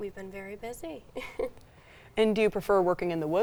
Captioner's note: chuckling